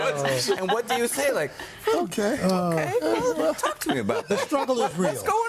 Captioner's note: laughter